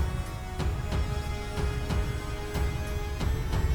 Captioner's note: none